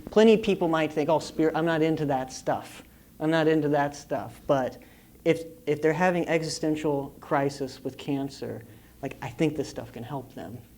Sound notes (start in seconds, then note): none